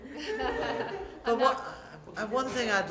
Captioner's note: laughter